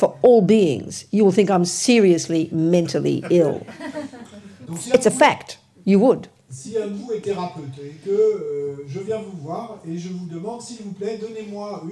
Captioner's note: laughter